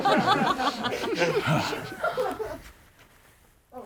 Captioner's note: group laughs